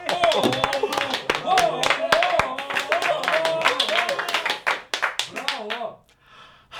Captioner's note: applause